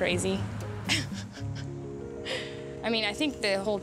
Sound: laughs

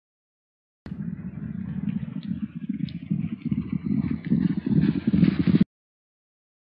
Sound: sound of fading hoofbeats

